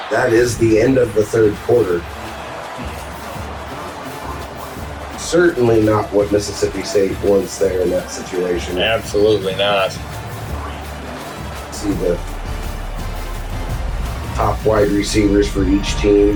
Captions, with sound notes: That is the end of the third quarter. [Crowd Noises] Certainly not what Mississippi State wants there in that situation. Absolutely not. [Crowd Noises] See the top wide receivers for each team,